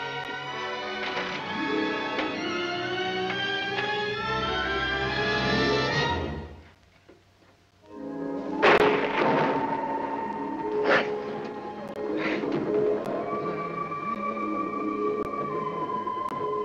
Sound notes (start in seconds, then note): 8.5 thunder crashes; 12.7 eerie music